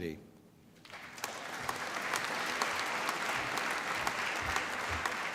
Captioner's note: applause